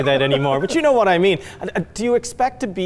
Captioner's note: laughs